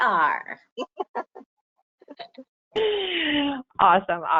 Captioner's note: chuckling